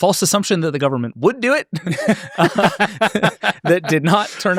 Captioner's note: laughs